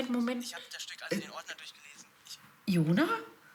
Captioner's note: voiceover